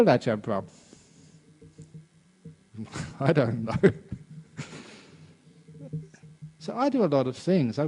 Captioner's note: laughs